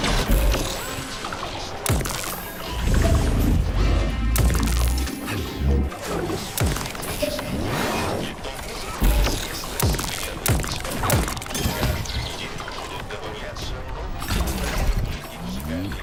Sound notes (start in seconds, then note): 0.0 gunshot; 10.4 gunshot